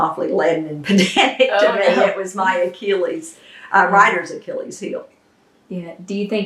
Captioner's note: laughter